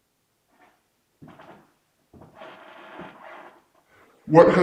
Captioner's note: floor creaking